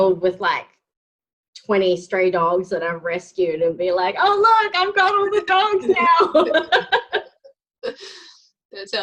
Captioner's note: laughing